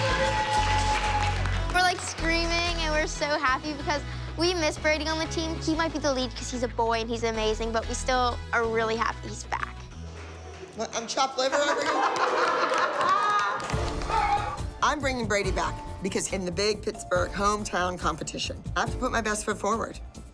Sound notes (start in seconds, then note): 11.4 laughter